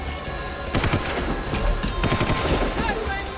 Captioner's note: gunshot